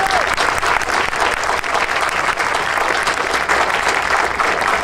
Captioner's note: audience applauding